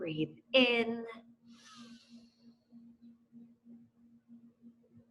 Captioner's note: inhales